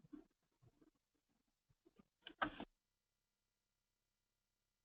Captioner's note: pause